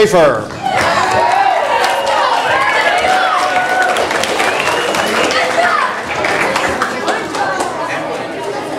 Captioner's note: audience applause